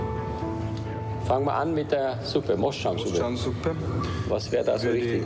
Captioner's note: speaking foreign language